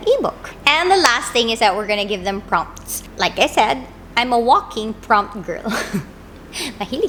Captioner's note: laugh